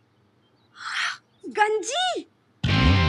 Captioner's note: Gasps